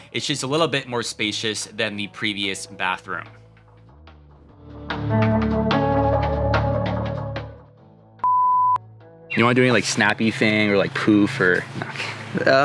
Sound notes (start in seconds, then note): 4.9 ambient music; 8.2 tone beeping